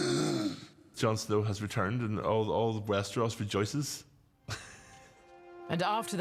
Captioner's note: gasps; laughs